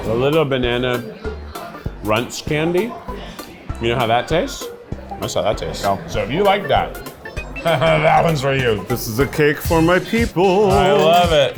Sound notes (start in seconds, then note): 7.4 laughs